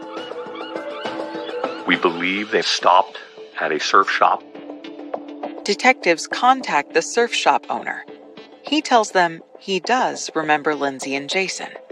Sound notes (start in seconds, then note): 0.0 seaeagulllls s squauaw